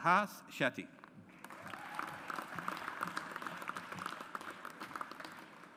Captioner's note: audience applauds